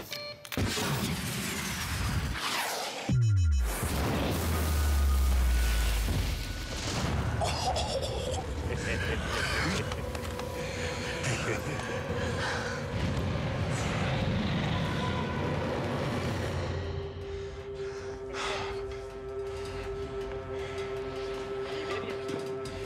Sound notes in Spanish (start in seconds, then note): 1.7 zumbido del disparo; 3.7 explosión; 7.4 risas; 15.6 exhala